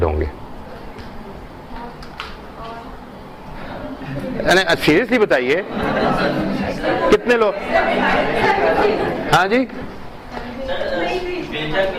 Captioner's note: laughter